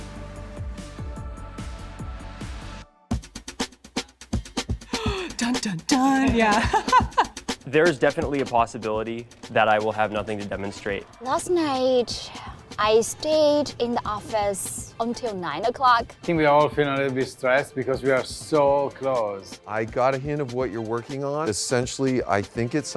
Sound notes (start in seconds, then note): 0.3 upbeat music; 3.9 upbeat music; 8.4 laughs